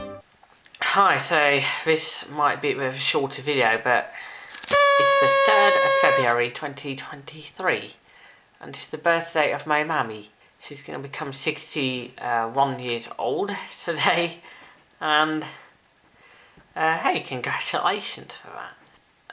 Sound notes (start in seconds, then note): 4.5 birthday horn